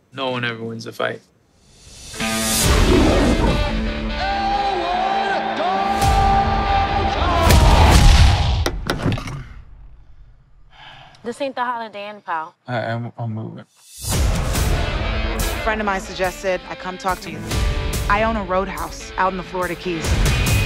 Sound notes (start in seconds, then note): 2.6 lion roars; 2.7 upbeat music; 7.5 punches thudding; 14.3 upbeat music; 20.4 upbeat music